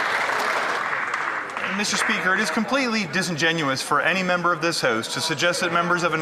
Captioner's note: some Applause